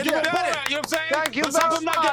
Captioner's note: clapping